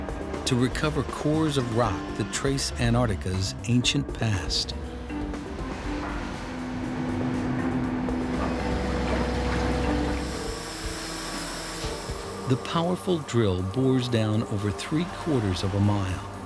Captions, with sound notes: TO RECOVER CORES OF ROCK THAT TRACE ANTARCTICA'S ANCIENT PAST. (drilling sounds) THE POWERFUL DRILL BORES DOWN OVER THREE QUARTERS OF A MILE,